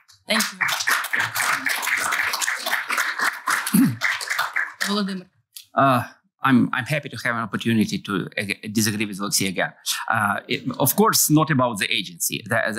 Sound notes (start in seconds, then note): 0.2 applause; 3.7 clears throat